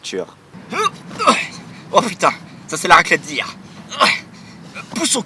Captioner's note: effort noise